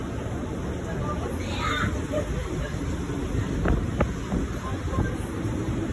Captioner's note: water roaring; passengers chattering; water roaring